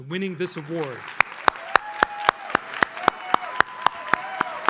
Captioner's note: audience cheers